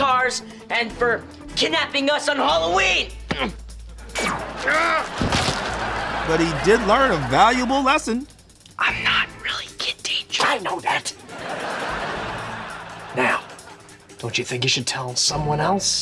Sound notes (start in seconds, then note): 4.1 groaning; 8.2 whispering